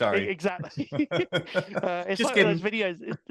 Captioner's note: both laughing